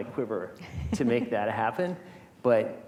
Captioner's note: chuckling